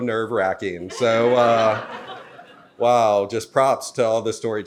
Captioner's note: audience laughs